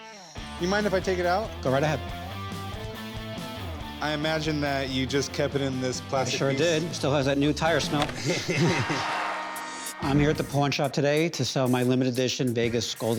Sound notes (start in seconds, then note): 8.5 cheering; 9.4 hockey goal horn blares